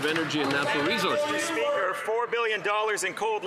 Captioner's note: some Applause